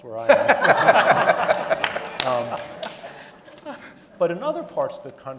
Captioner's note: audience laughing